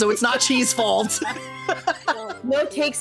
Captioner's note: laughing